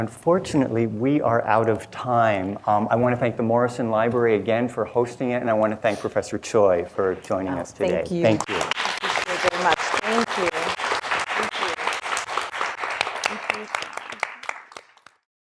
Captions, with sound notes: - And unfortunately we are out of time. I wanna thank the Morrison Library again for hosting it, and I wanna thank Professor Choy for joining us today. - Thank you. - Thank you. (applause) - Thank you so very much. Thank you, thank you. Thank you so much.